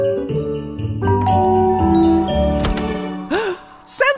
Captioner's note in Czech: zvonek